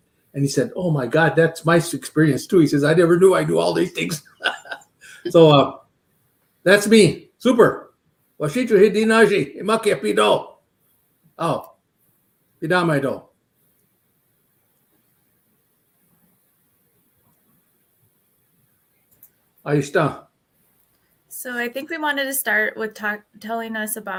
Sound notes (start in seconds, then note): 5.0 laughs; 8.9 speaking Dakota